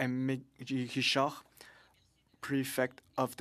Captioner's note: speaking French